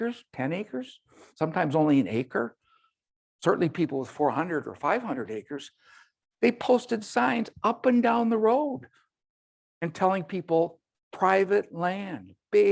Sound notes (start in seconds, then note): none